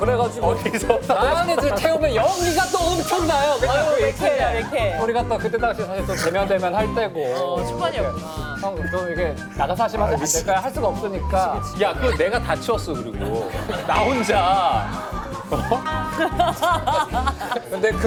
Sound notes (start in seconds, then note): 7.4 laughs